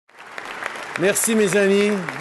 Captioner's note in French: Applaudissements